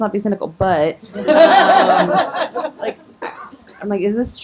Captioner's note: audience laughing